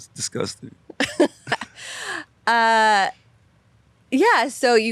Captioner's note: laughs